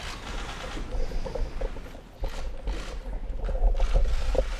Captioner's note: applause